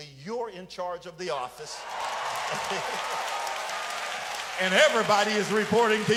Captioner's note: audience applauds